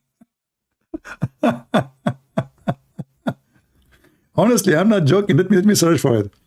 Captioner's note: Ketawa